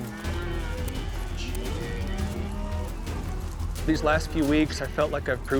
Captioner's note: cattle mooing